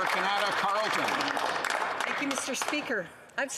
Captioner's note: applause